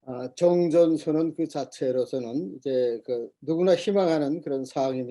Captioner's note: speaking Korean